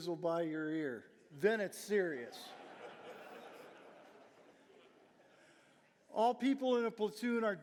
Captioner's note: audience laughing